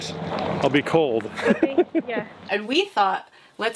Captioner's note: laughing